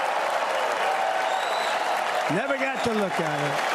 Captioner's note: applause